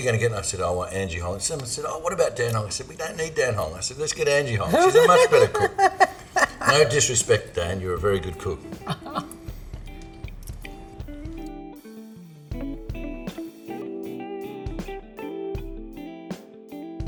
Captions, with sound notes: And I said I want Angie Hong. Someone said, oh, what about Dan? I said, we don't need Dan Hong. I said, let's get Angie Hong, she's a much better cook. (laughing) No disrespect Dan, you're a very good cook. (gentle music)